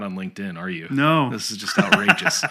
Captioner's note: laughs